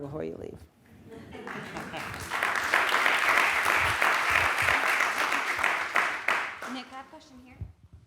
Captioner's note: applause